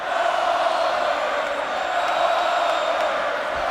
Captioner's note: crowd chanting